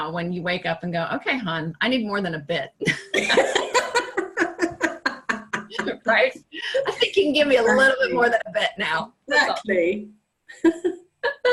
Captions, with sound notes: when you wake up and you go, okay, hun. I need more than a bit. (laughing) Right? I think you can give me a little bit more than a bit now. - Exactly.